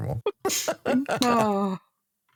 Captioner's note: laughs